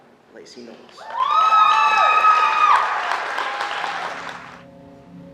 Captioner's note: audience cheering